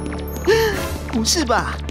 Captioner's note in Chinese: 倒吸气